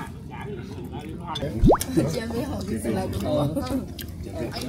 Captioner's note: juice bursts